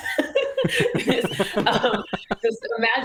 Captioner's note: laughter